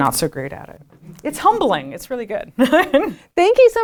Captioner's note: laughs